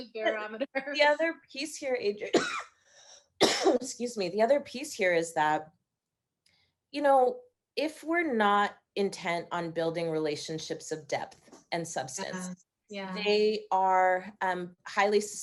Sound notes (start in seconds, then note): 3.4 coughing